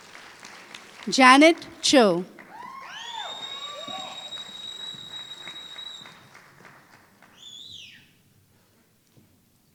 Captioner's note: applause